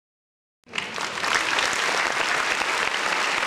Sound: applause

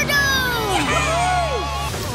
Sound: cheering

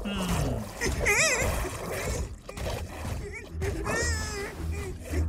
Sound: gasps, whimpering; whimpering continues

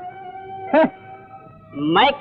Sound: scoffs

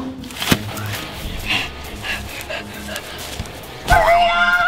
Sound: panting heavily

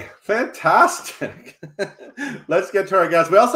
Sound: laughs

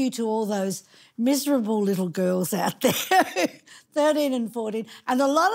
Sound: laughing

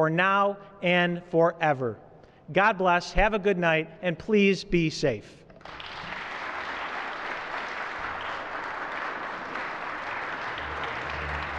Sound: applause

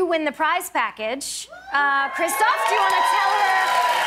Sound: cheers and applause

